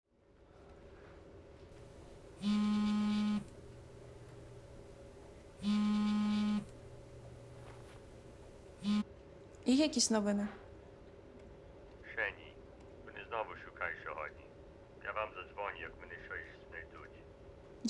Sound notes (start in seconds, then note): 9.6 in Ukrainian